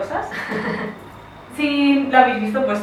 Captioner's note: nervous laughter